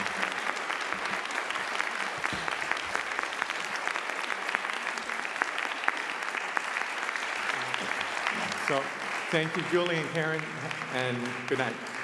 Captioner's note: applause